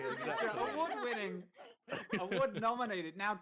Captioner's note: all laughing